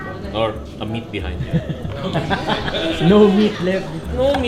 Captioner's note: laughter